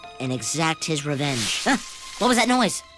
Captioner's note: rustling